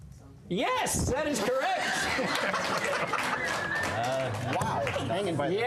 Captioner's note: laughter